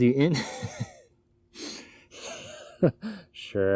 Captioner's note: laughs